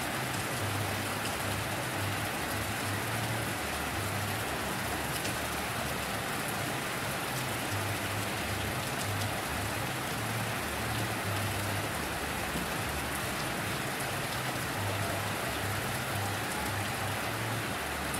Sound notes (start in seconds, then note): 12.1 rain Sounds